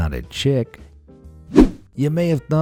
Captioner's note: whoosh